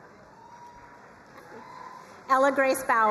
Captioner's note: crowd cheering and applauding